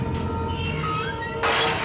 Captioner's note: chilling music continuing; metal gate clanking